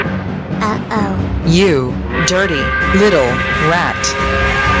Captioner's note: angry work whistle; angry work whistle